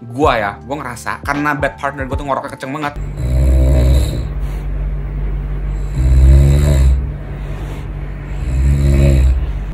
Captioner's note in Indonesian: is Snoring